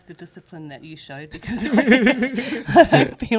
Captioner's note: laughs